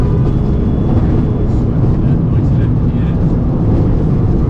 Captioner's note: engine rumbling